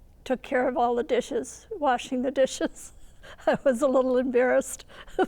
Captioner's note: laughs